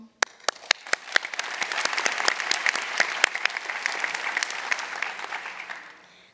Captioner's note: applause